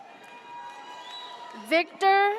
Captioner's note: audience cheers